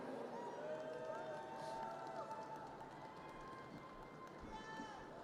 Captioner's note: audience cheers and applause